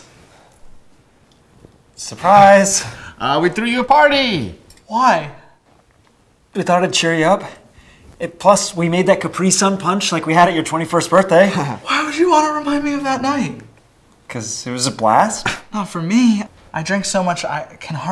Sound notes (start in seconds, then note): 11.5 Robert chuckles